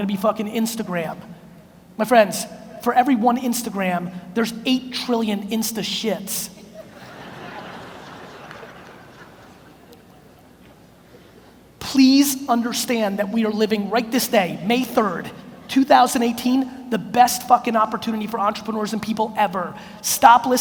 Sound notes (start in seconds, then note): 6.6 audience laughs